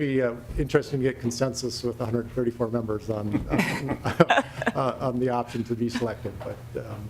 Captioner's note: laughing